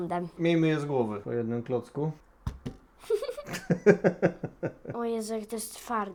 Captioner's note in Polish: śmiech